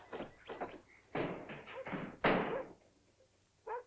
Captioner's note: doors bang open